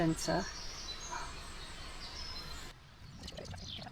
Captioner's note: birds chirping